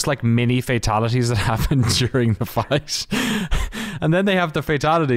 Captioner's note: laughs